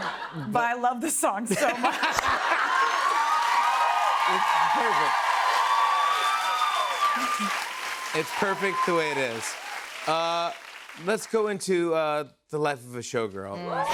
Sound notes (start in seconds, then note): 1.5 laughter; 2.3 cheers and applause